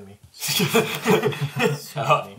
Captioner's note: all laugh